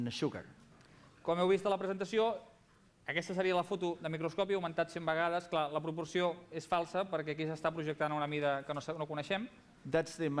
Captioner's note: non-english speech